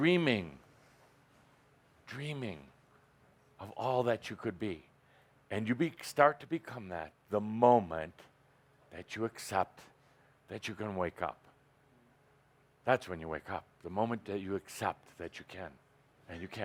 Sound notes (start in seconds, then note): none